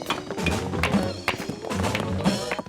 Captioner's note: lively music; rocks clatter